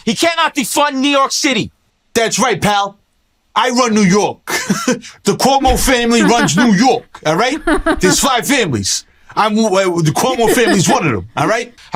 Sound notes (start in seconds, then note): 1.7 cuomo voice; 5.6 chuckles